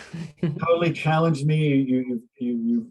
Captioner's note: laughs